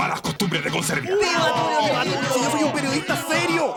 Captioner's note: cheers for Tulio